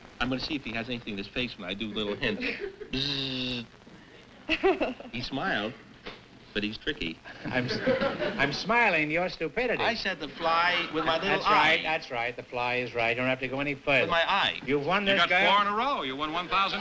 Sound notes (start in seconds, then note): 4.4 laughs